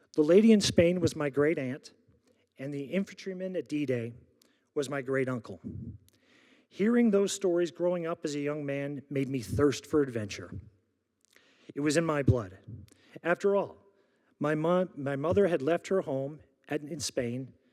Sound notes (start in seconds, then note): none